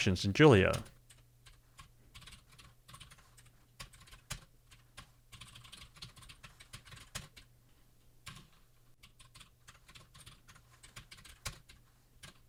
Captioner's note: keyboard typing sounds